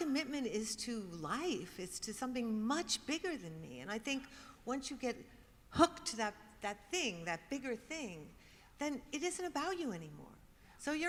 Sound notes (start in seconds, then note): none